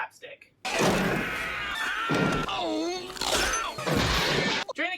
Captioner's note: Hunch screaming in agony